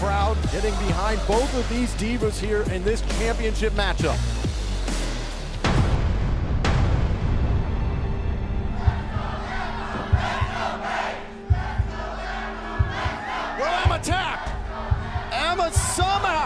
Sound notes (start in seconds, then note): 5.4 crowd cheering